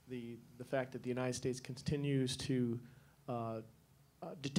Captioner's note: none